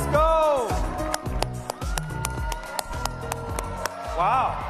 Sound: applause

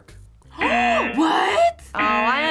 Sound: gasps; buzzer rings

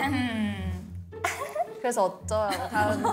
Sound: haha

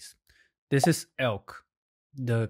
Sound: graphics pops

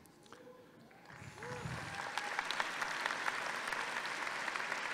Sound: audience applauding

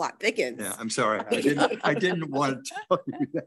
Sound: all laughing

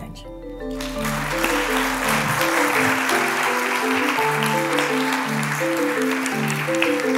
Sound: applause

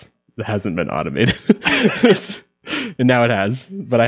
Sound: laughing

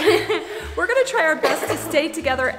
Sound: laughs

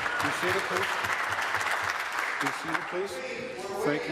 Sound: applause

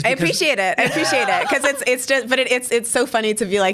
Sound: laughs

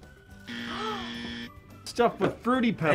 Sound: gasps; buzzer rings

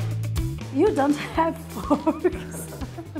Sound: giggles

